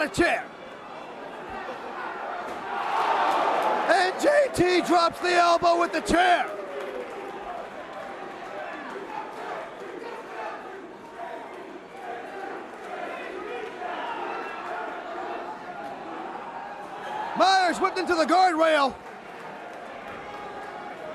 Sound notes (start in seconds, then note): 0.0 crowd chatter; 3.6 crowd cheering; 8.3 crowd chatter; 15.2 crowd cheering